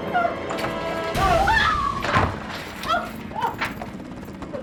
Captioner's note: screaming